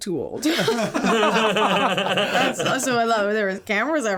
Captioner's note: all laughing